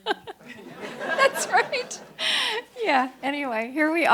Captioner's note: audience laughs; laughs